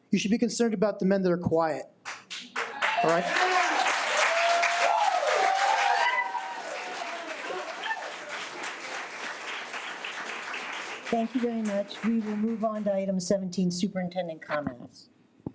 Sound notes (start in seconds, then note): 3.9 audience applause